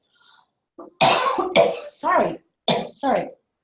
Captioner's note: cough